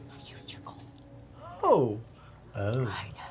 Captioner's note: whispers